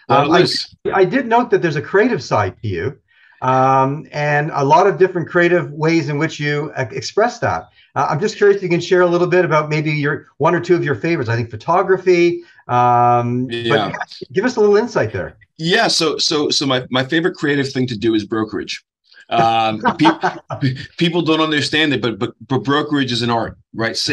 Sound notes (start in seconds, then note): 19.3 laughs